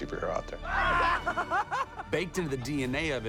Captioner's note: laughing